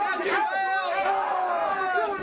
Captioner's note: crowd chatter